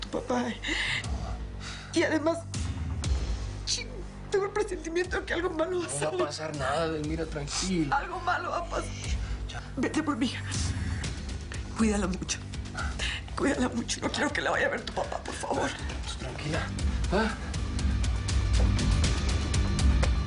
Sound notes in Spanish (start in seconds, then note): 9.6 Sollozando